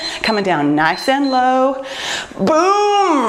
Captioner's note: timer beeps